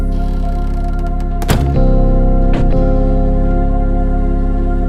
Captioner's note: door squeaks; door clatters; gentle music